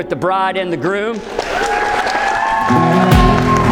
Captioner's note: cheering and applause; gentle romantic music